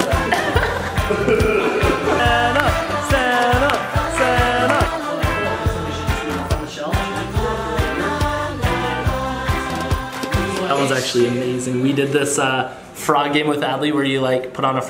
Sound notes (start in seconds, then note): 0.0 laughing; 2.3 clapping